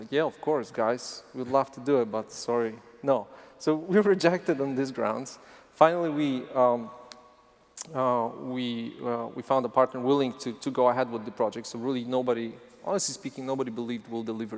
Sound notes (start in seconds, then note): none